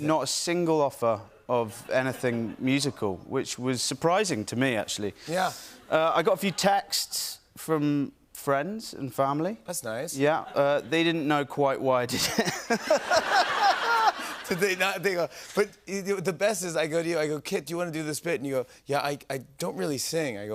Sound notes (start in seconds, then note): 12.1 laughter